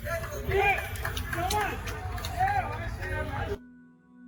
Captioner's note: spectators clapping